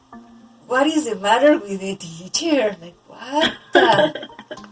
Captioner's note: giggles